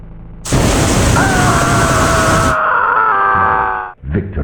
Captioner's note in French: cris de douleur